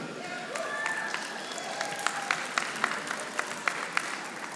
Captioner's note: audience applauding